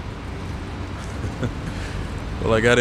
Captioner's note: Allan laughs